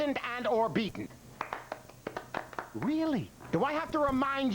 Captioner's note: scattered applause